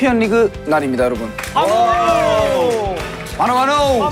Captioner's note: cheer